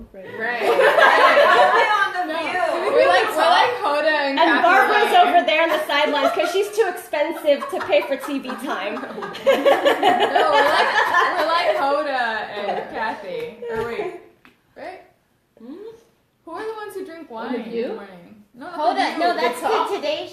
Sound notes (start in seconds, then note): 9.6 laughter